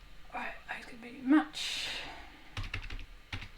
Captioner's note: mumbles softly